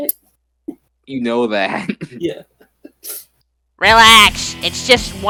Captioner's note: chuckles